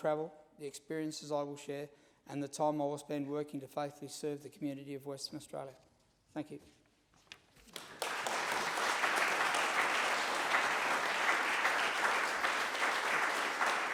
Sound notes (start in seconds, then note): 7.6 applause